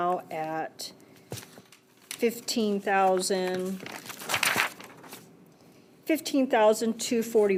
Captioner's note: paper rustles